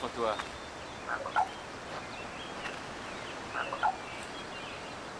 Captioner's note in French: pépiement de Blackfeather